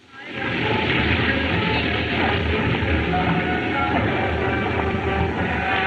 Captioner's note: chattering; horns Honking